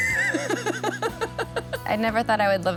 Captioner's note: laughs